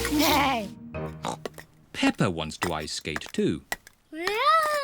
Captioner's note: snorts